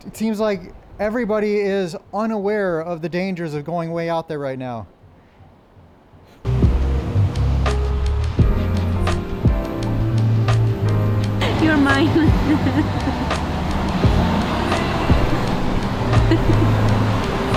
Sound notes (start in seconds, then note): 6.6 gentle upbeat music; 11.4 laughs